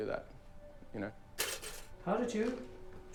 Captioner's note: toaster popping